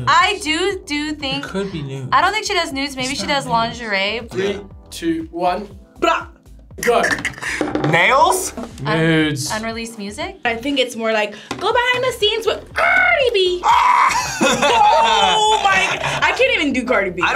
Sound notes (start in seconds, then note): 13.1 trills; 13.6 shrieks; 14.0 both laugh